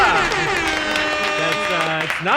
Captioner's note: horn blaring